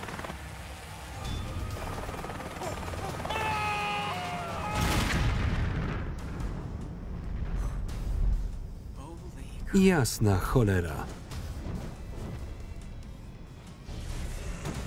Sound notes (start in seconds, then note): 3.0 screaming; 4.6 explosion rumbling